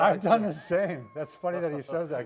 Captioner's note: laughs